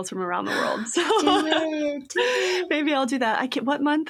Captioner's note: laughs